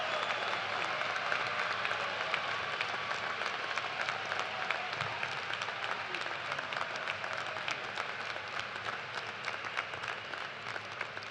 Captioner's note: cheers and applause